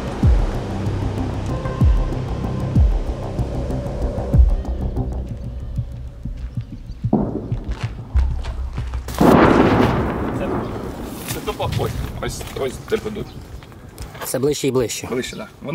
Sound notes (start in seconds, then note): 9.1 explosion nearby